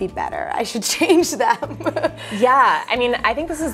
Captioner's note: laughs